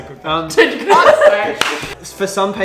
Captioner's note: laughs